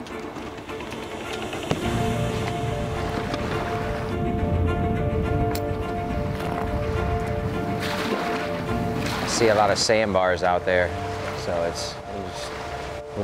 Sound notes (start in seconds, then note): 0.2 uplifting music; 8.1 waves crashing